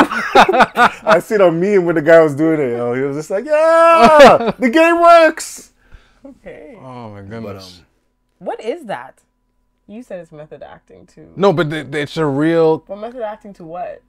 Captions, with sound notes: (laughing) I sit on me and what the guy was doing to you. He was just like, yeah, the game works! - Okay. - Oh my goodness. - What is that? You said it's method acting too. - No, but it's a real. - What method acting to what?